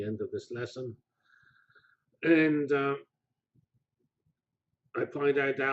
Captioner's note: pause